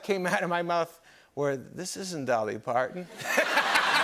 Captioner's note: laughter